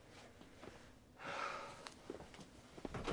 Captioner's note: sighs